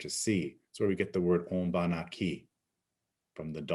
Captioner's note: speaking in Abenaki